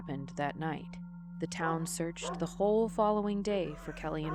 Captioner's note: dog barks